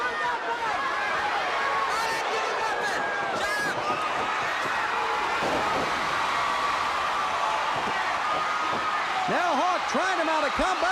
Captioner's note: crowd cheering